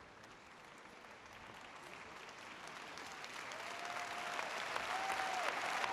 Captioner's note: audience applauding; audience cheering